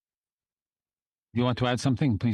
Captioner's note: speaking French